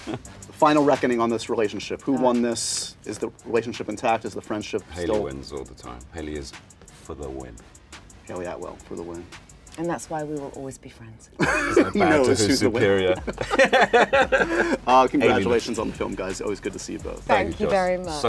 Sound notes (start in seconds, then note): 11.4 laughter